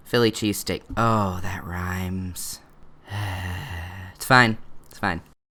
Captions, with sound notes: ...philly cheesesteak. Oh...that rhymes. [sighs] It's fine. It's fine.